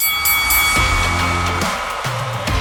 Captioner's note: bell dinging; upbeat music